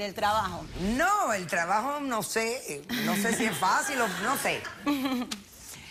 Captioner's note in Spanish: risas